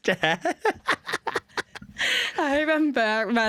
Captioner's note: laughter